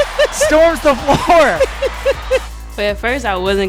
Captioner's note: laughing